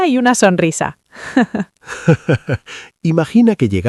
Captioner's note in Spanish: Risas